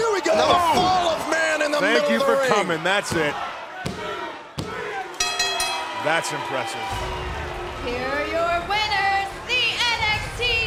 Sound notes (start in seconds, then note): 5.2 bell ringing; 6.4 crowd cheering